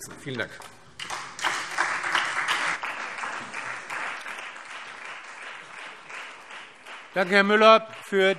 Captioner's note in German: Beifall Freie Demokraten, SPD und vereinzelt CDU